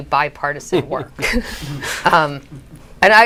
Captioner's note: chuckles